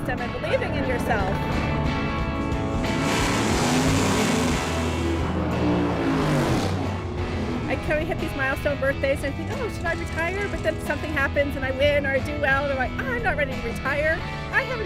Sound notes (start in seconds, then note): 2.8 engine revving